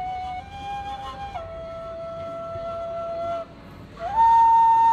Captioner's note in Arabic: none